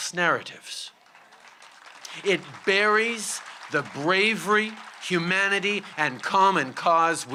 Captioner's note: applause